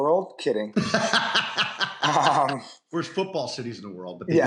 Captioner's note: laughter